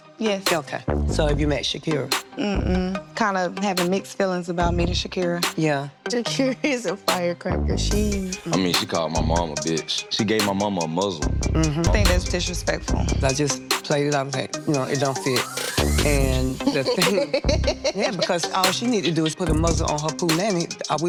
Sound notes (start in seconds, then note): 16.4 laughing